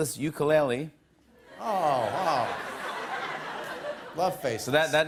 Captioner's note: laughter